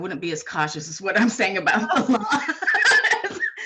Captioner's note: laughing